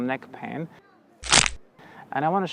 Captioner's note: crrrack!